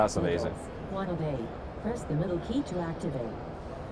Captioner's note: device speaking